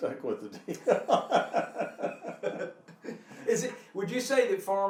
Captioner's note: laughing